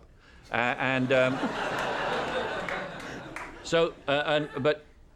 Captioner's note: laugher, applause